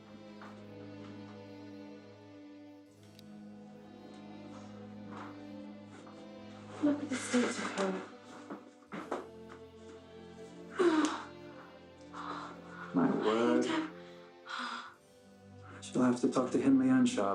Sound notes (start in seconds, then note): 0.1 soft dramatic music; 10.2 Cathy moaning